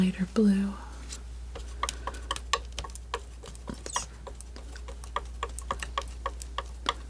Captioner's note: scratching